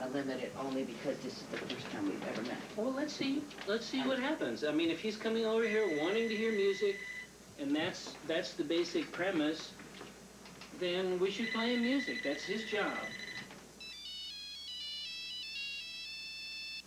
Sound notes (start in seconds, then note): 4.6 tephone rings; 13.3 celphone rings